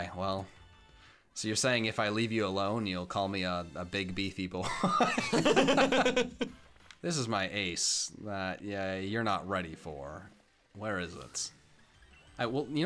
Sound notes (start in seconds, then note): 4.6 laughter